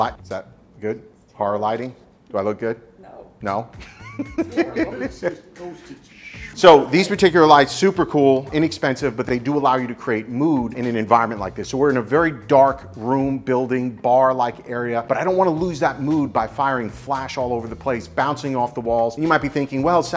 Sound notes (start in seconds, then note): 3.8 laughing